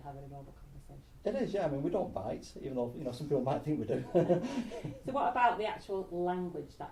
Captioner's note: laughs